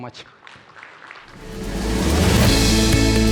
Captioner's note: audience claps; upbeat music